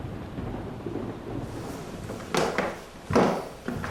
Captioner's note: thunder rumbles